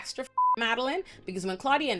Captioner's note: beep